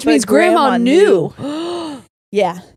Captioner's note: gasps